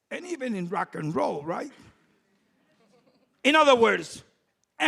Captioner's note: low laughter from audience